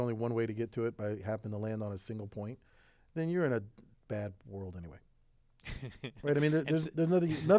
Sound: laugh

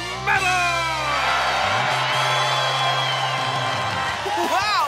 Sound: cheering

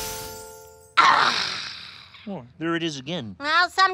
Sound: sighs

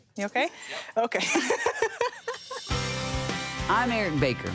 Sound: laughing

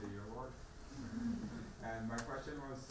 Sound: audience laughing

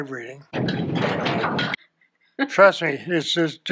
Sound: earthquake noises

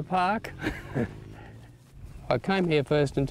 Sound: laughter

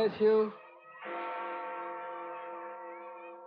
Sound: bell Tolling

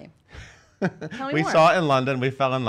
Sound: laughs

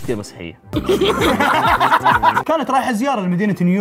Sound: both laugh

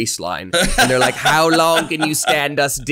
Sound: laughs

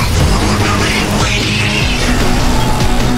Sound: angry quacking

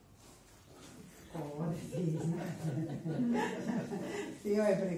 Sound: laughter

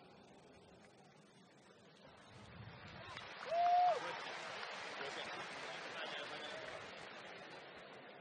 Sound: applause

